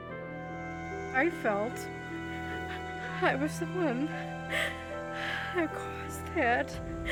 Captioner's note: crying